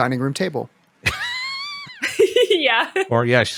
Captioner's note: laughter